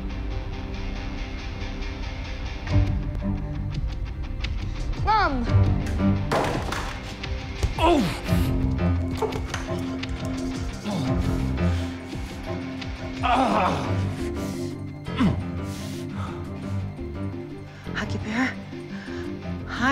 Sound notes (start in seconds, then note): 6.3 gun clangs; 7.7 Tony groans; 9.2 tense instrumental music